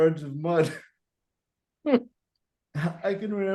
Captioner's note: both laughing